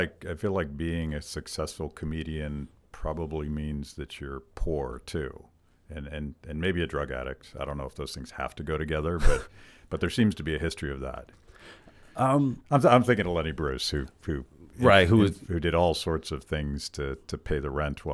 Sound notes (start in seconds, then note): 9.5 laughs